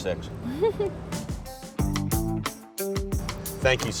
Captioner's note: laughs